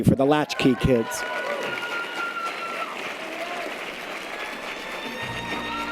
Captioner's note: audience applause and cheers; jazzy clarinet music